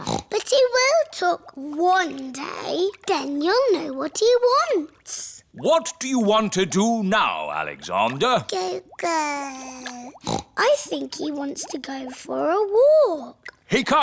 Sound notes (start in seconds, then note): 0.0 snorts; 9.0 babbles; 10.0 snorts